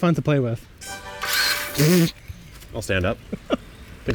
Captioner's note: auger whirring